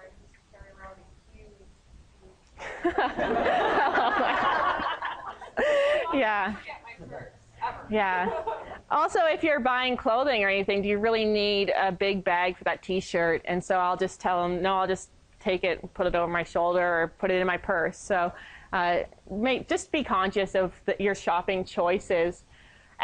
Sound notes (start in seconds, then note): 2.6 laughter